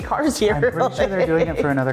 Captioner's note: laughing